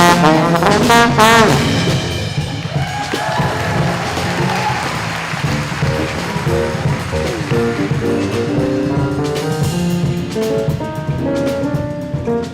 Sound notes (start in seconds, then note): 4.3 audience applauding; 11.2 upbeat music